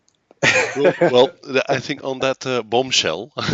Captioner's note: laughs